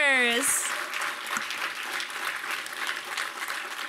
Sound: applause

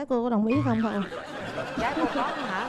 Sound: laughing

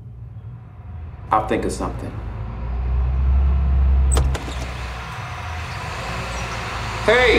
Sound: car approaching

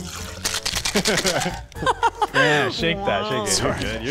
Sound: bottle clanking

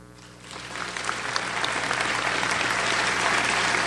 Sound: audience applauds

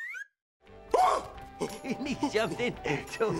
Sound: screaming

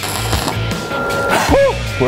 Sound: welding

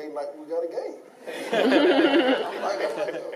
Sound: laughing

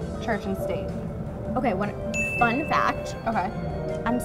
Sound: ding

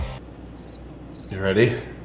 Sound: chirp sound

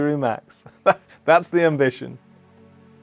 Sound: laughs

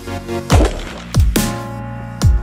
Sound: gunshot

